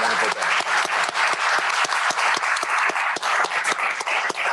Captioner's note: applause